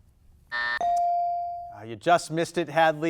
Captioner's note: buzzer dings; timer buzzes